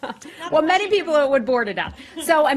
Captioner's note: laughter